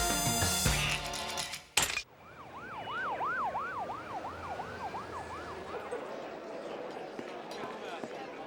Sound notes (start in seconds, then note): 0.4 duck quacks; 2.1 sirens wailing in distance